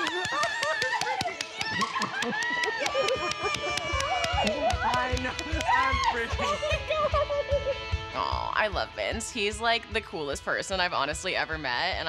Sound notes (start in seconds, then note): 1.8 squealing